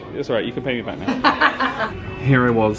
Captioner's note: laughs